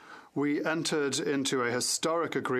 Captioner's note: speaking French